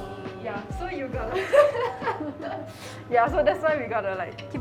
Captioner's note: laughs